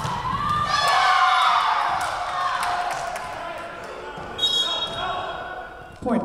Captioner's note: crowd cheering; whistle blowing